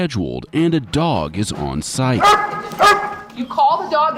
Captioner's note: Baylee barking